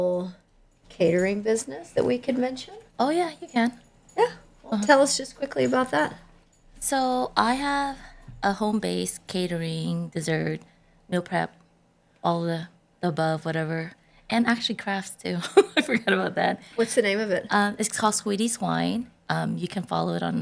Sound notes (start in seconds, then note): 15.4 laughter